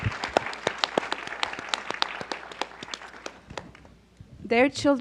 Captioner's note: audience applauds